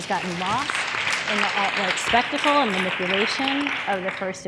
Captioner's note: audience applause